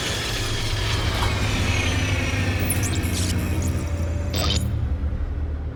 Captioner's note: electronics powering down